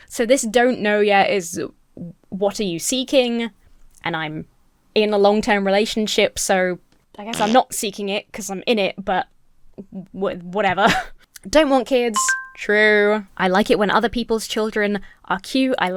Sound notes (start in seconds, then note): 6.6 fart sound effect plays